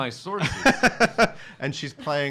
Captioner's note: laughing